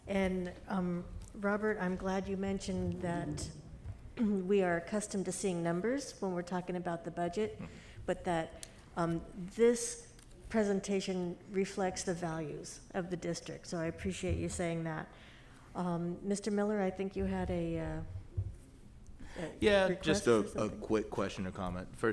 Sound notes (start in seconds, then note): 3.3 clears throat